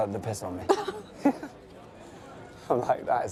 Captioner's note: laughter